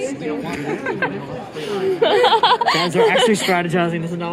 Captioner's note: more laughter